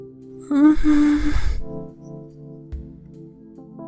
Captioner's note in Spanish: Sonidos de Ángel avergonzado